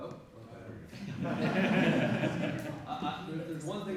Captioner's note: laughter